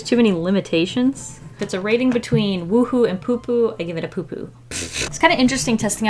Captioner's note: laughs